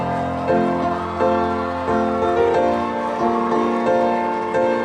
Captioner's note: audience cheering